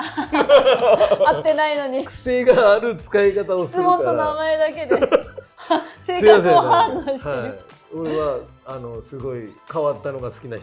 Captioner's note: laughs